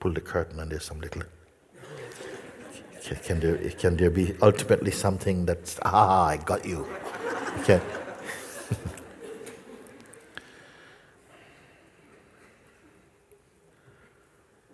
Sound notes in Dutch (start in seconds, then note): 9.0 gelach; 11.0 lange stilte